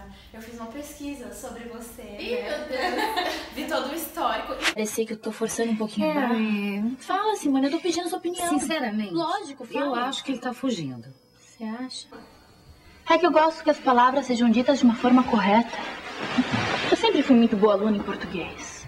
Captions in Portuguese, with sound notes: Eu fiz uma pesquisa sobre você... - Ih meu Deus! (risos) - Vi todo o histórico - Eu sei que eu tô forçando um pouquinho a barra... - Kerry... - Fala Simone! Eu tô pedindo a sua opinião! - Sinceramente? - Lógico! Fala! - Eu acho que ele tá fugindo. - "Cê" acha? - É que eu gosto que as palavras sejam ditas de uma forma correta. Eu sempre fui muito boa aluna em português.